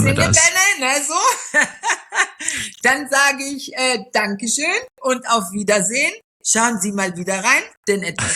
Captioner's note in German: gelächter